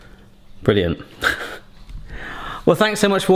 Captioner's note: scoffs